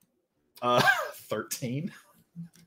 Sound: laughs

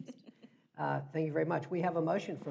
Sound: laughs

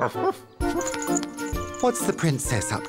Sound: barks

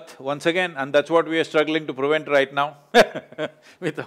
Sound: laughs

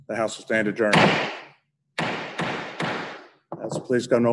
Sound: bangs Gavel

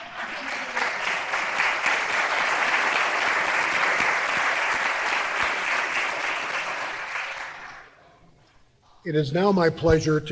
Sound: applause

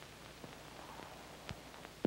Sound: none

